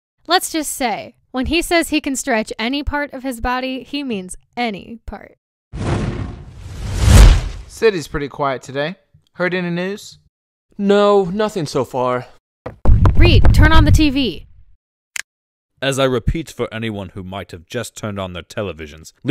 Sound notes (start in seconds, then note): 5.8 flaming sounds; 12.4 footsteps, large footsteps; 14.9 click